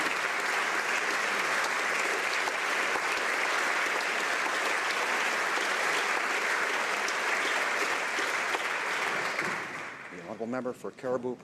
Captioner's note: applause